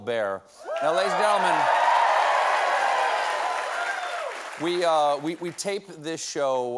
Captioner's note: cheers and applause